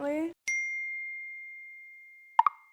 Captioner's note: ding